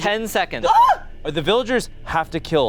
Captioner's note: screaming